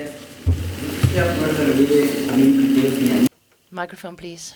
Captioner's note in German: spanisch